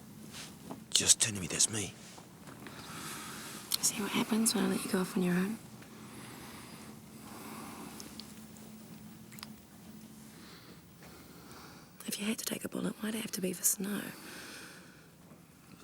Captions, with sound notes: Just tell me, that's me. - See what happens when I let you go off on your own? (lips smack) If you had to take a bullet, why did it have to be for Snow?